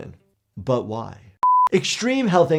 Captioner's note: screen beeps